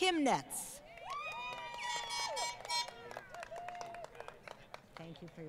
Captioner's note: crowd Cheering & Applause